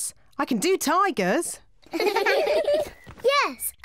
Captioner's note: kids giggling